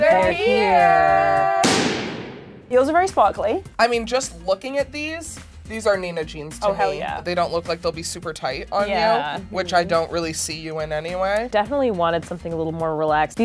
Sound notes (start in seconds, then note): 1.6 bang